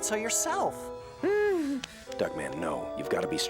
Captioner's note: whimpers